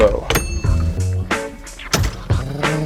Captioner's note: steering wheel chimes; revving